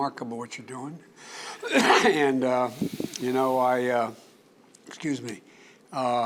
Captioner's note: coughs